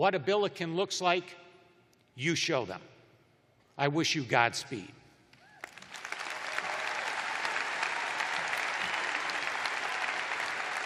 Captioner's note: cheers and applause